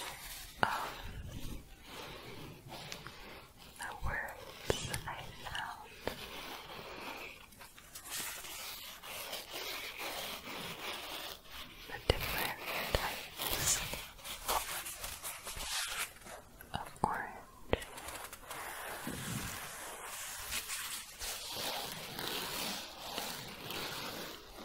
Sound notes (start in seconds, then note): 6.2 faster scratching; 17.7 circular scratching